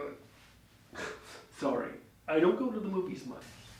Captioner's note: chuckles